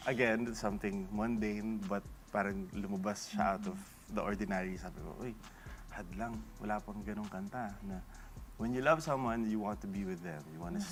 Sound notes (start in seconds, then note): none